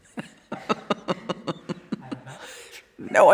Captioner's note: laughing